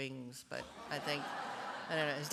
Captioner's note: laughter